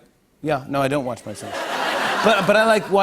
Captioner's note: laughter